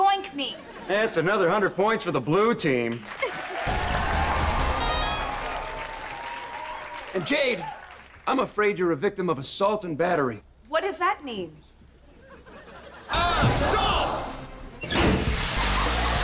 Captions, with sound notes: That's another hundred points for the blue team. [cheering, applauding] And Jade, I'm afraid you're a victim of "a-salt and battery". What does that mean?